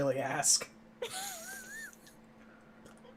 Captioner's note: wheezes